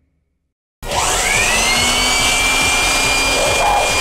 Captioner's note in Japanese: ブロワーの音